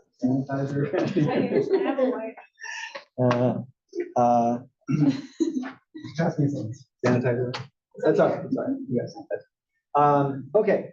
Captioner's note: laugh